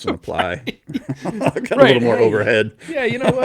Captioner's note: laughing